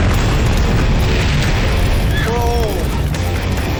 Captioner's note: explosions; screams